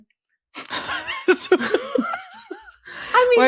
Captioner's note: laughter